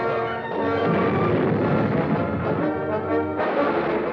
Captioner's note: dramatic orchestral music; bomb explodes; gunshots blasting